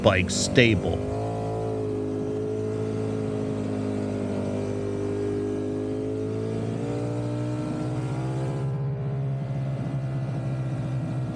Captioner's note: engine roaring